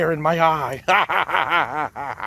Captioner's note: laughs